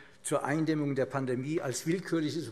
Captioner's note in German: none